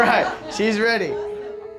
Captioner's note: crowd laughs